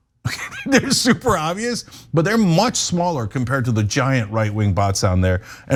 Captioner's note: laugh